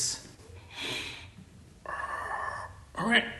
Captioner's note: breathing sounds